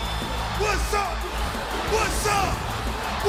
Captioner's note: crowd cheering